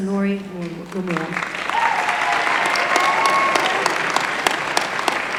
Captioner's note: applause